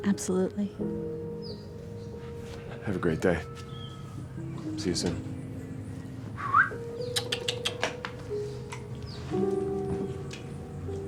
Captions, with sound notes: - Absolutely. - Have a great day, see you soon (whistles).